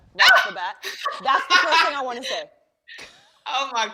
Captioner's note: laughs